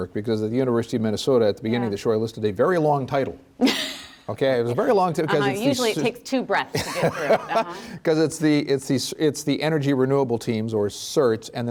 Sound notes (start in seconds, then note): 3.6 laughs; 6.7 laughs